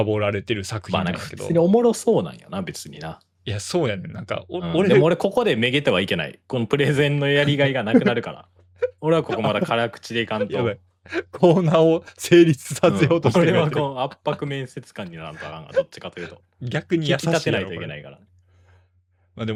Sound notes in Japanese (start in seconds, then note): 8.8 笑い